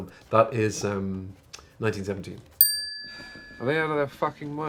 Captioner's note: bell chimes